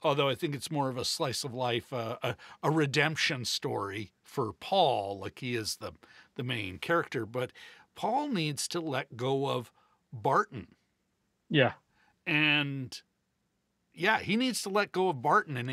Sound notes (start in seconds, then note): none